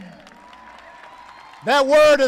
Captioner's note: applause